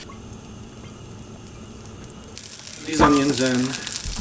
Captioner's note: sizzling